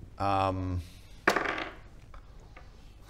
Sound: ominous dice roll

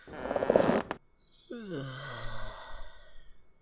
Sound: yawns

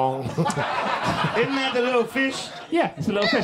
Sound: audience laughs

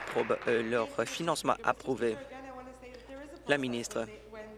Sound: applause

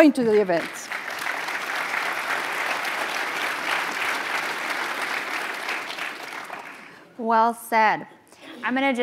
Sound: applause

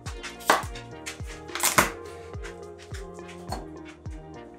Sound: crushing

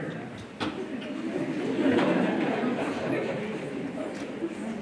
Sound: laughter

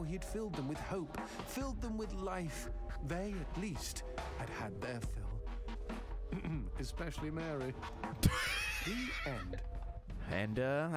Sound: laughs

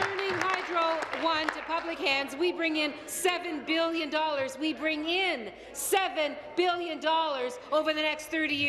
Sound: applause

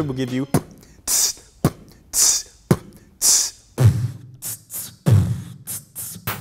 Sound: beatboxing

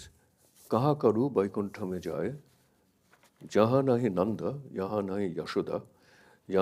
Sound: speaks in a foreign language

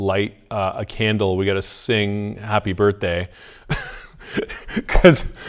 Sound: laughs

